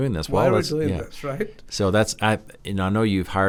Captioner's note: laughs